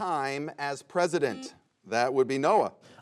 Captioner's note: buzzer sounds